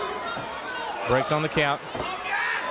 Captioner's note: crowd cheering